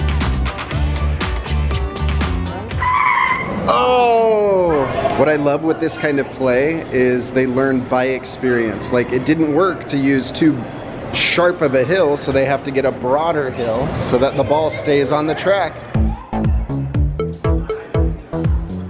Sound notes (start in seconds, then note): 2.4 kid makes car screeching noise; 15.9 funky music